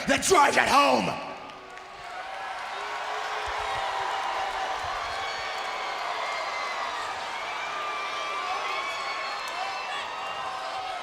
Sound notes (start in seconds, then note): 2.2 audience cheers